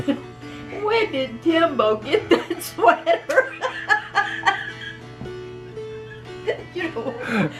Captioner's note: laughter